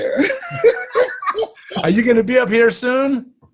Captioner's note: both laughing